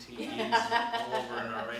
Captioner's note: laughs